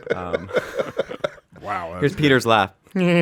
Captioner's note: laughing